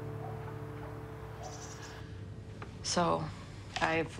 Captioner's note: bird chirps; dog barks